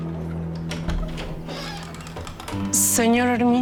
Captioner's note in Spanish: Ruido al abrir